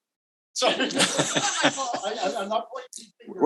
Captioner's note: all laughs